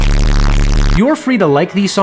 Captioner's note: static